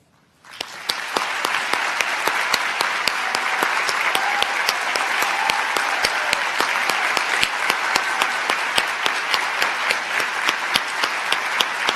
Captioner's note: applause